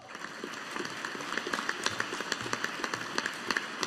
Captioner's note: audience applauding